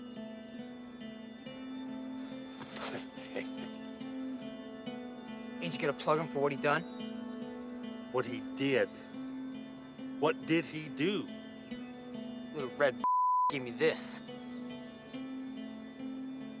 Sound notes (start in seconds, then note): 2.5 chuckles